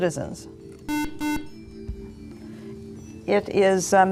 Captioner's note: beeping